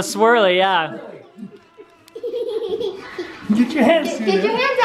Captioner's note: laughing